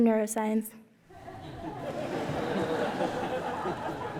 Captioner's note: laughter